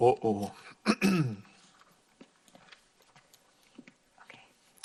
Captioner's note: clears throat